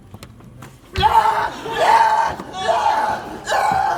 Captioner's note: screaming